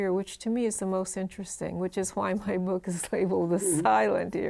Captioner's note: chuckles